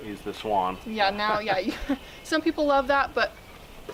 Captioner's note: chuckles